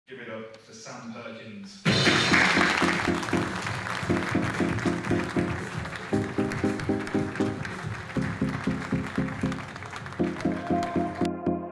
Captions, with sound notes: - Give it up for Sam Perkins. (audience applauds) (upbeat music)